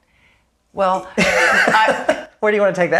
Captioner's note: laughing